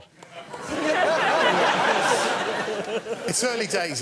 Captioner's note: laughter